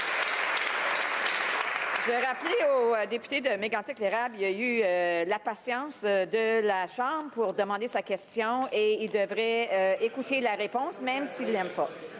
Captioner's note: some Applause